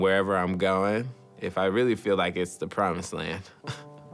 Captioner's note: chuckles